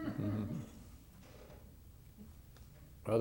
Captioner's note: laughter